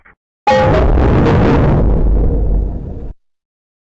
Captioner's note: Lowest Giga Windows XP shutdown sound